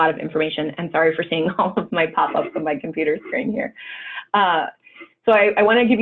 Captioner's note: laugh